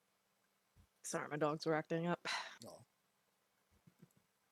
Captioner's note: sighs